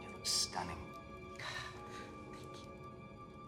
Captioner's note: Molly sighs